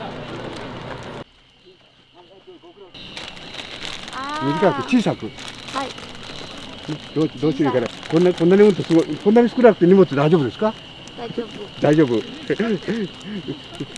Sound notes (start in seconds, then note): 2.9 conversing in Japanese